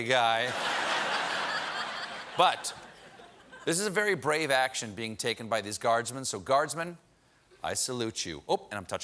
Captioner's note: laughter